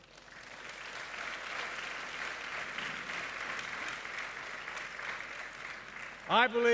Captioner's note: applause